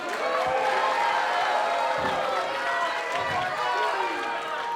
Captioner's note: cheers & applause